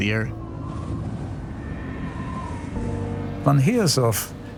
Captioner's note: wind blowing